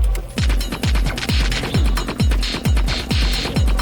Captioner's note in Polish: Częste metaliczne uderzenia